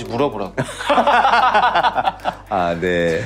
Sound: laughter

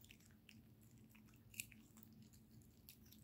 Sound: muching sound; 씹는 소리

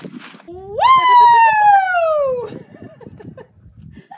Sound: shouting

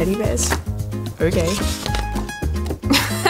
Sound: laughing

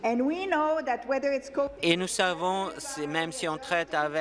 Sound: speaking in French

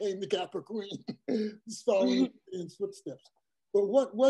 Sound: laugh

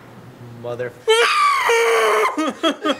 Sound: scream

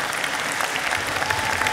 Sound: audience cheering

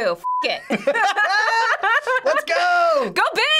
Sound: both laughing

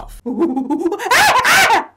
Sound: chimpanzee sounds

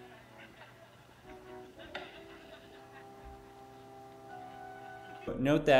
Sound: soldiers Chuckling

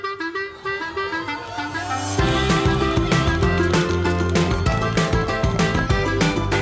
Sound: crowd cheering

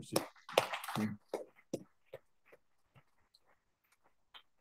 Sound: audience clapping

